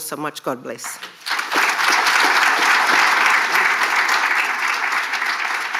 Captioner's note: audience applauding